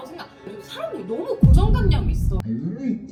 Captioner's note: sudden outburst